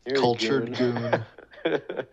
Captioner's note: laughter